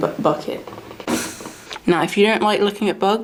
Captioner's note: air blowing